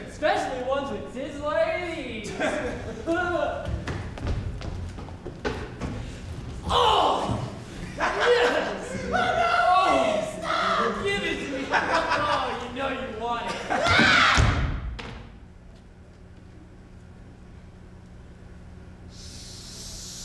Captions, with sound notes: - Especially ones with tits like these! (Sly laughs) Oh yes! (Sly laughs) - Oh no, please stop! - Give it to me! Come on, you know you want it. (gross person cries out) - Shh.